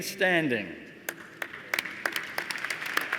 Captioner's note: applause